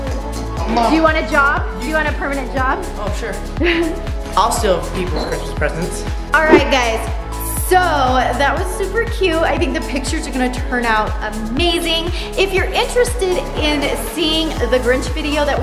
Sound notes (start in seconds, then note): 3.6 mom laughing